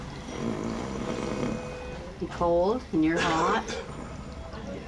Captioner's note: grunting